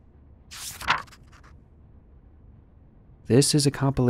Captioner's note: paper flicks